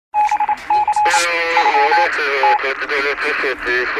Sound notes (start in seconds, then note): 0.7 crickets chriping, morse code beeps, walkie talks